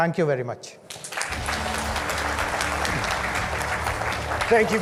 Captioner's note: audience claps